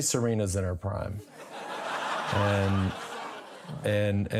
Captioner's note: audience laughs